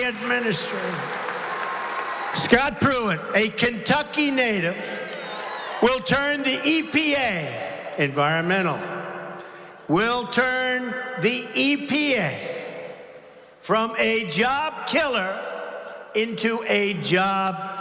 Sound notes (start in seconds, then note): 2.2 applause